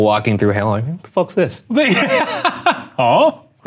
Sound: laughing

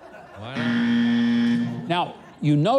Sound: beeps

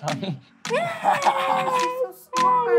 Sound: laughs

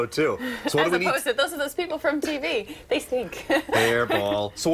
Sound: laughter

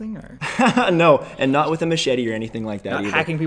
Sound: laughs

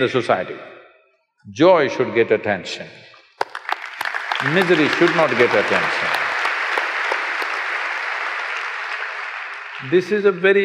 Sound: applause

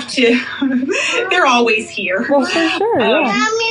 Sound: laughs

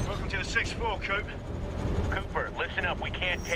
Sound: radio

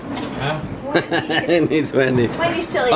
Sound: laughs

